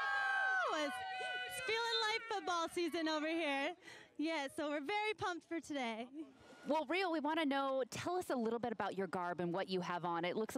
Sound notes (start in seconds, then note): 3.6 cheering